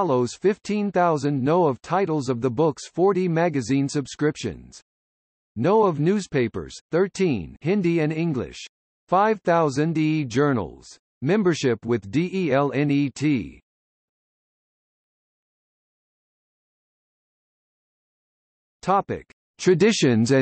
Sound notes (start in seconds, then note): 7.4 hindi & English